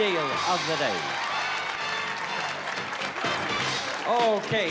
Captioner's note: applause